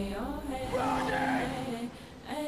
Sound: man yelling

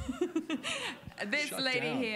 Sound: laughing

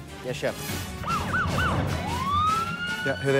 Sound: sirens

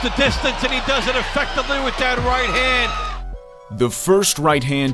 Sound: crowd noise

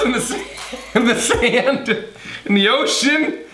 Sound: laughing

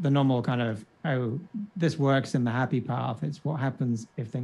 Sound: faintly speaking

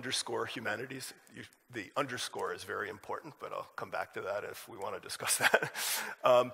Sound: laughs

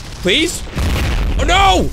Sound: meteor crashes

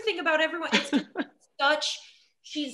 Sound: chuckling

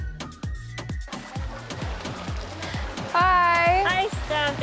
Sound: beach water splashing

